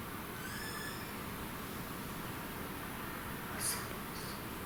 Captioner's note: creaking